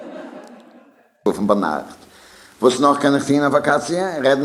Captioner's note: speaking yiddish